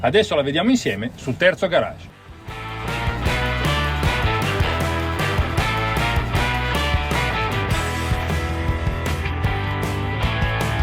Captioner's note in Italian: Applauso